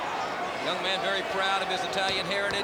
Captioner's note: crowd chatter